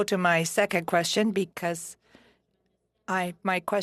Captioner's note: speaking French